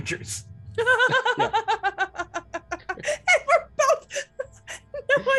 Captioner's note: laughing